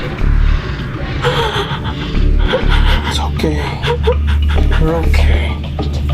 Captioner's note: sobbing